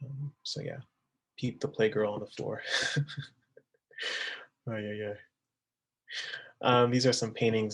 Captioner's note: laughing